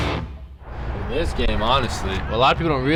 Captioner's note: birds chirping, cars driving